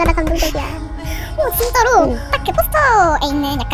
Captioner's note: sniffles